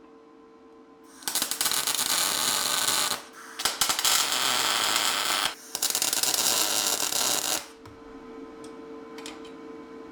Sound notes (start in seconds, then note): 1.1 metal sizzling